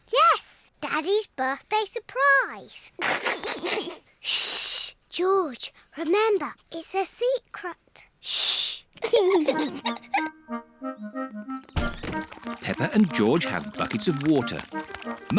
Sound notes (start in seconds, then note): 3.0 giggles; 9.0 both laugh